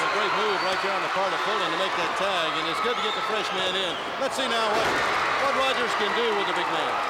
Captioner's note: crowd cheering